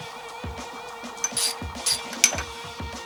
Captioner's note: ratcheting; clanking